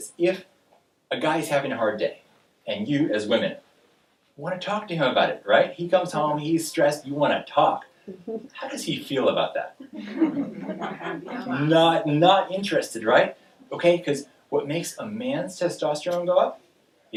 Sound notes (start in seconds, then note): 9.8 audience laughing